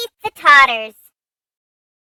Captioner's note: laughs